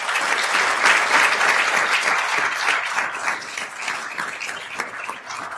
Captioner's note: attendees applauding